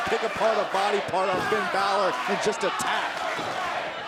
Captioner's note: crowd chatter